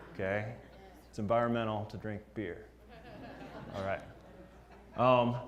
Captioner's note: laugh